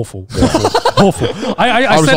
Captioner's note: laughs